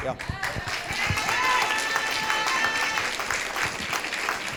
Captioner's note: audience applauding